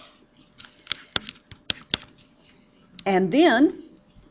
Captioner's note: loud clicking